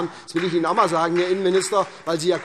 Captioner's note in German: Beifall SPD